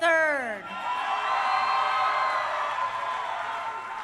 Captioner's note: crowd cheering